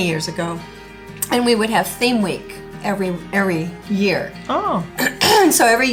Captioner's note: clears throat